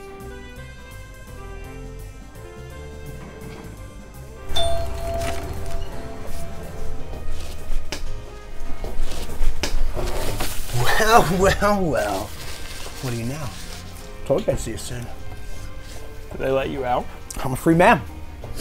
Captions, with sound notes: (Doorbell chimes) Well well well... what do you know? Told you I'd see you soon. They let you out? I'm a free man.